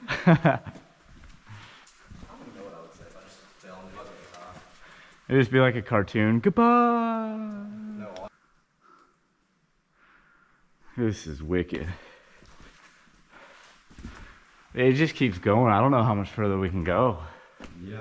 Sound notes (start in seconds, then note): 0.1 laughs; 8.2 voice fades